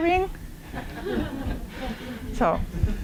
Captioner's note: laughter